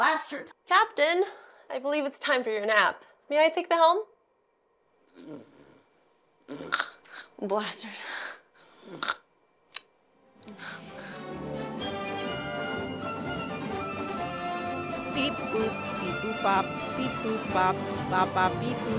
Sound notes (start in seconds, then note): 5.1 snoring; 14.7 triumphant music